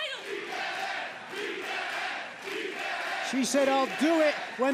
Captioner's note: crowd cheering